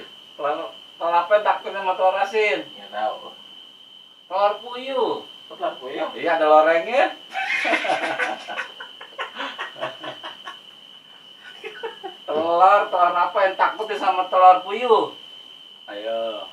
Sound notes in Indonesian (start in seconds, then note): 7.3 ketawa monyet